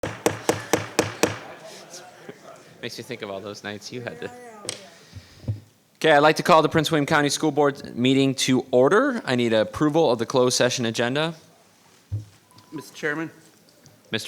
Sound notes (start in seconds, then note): 0.0 gavel banging